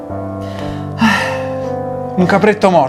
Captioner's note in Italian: sospira